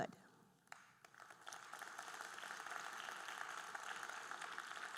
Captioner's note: audience applauding